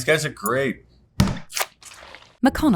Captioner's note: tub thudding